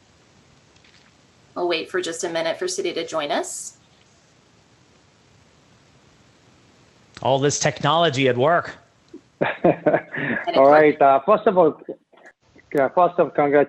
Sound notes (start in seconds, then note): 9.2 laughs